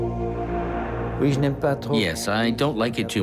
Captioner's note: speaking in foreign language